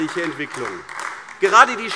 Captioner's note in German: Beifall AfD